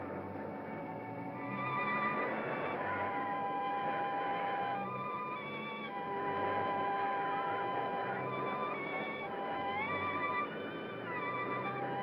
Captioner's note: dramatic ominous music; wind blows hard; ominous music; wind blows